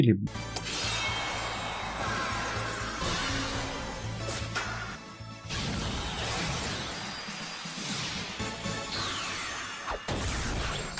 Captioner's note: sounds from the anime "Saki"